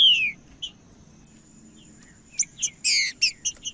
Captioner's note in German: trinca ferro cantando